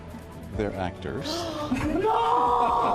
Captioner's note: gasps